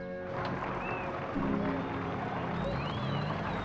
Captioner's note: cheering